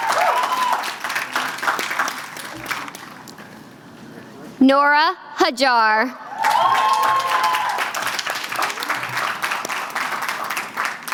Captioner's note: applause